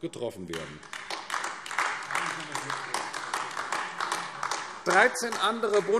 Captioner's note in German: Beifall AfD